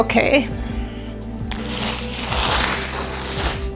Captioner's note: sound of wiping the tent